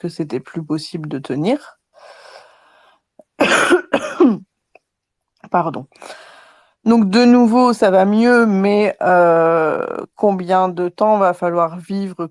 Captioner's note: cough